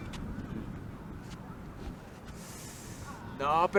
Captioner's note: wind gushing